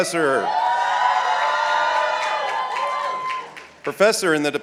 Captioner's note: audience cheering